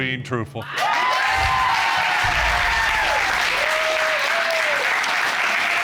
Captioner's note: applause